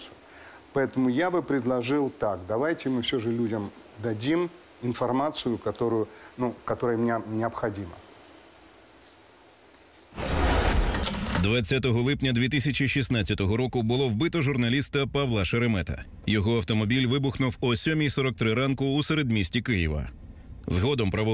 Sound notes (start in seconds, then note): 9.5 voiceover, in Ukrainian